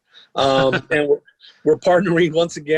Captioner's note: laughing